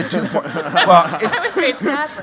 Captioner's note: laughter